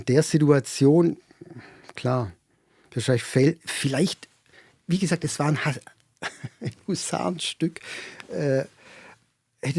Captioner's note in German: gelächter